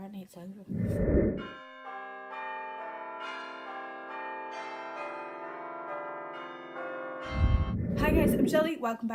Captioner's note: bells Tolling